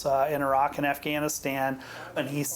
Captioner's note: speaks faintly